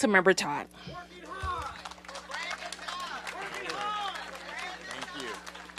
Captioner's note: applause